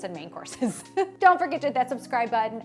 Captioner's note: laughing